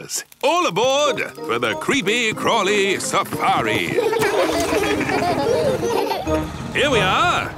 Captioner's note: laughing